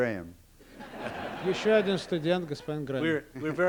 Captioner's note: laughter; non-english speech